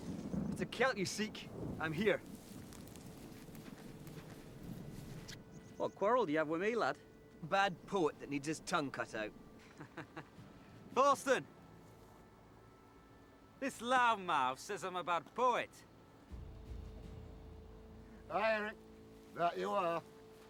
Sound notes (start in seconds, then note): 2.9 thunder rumbles; 9.7 Eric laughs